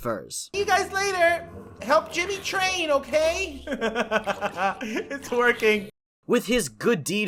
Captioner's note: laughs